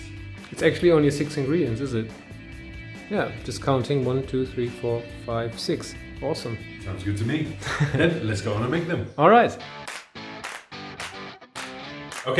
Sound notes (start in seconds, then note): 7.5 laughs; 11.5 upbeat music